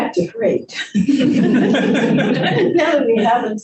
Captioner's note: group laughs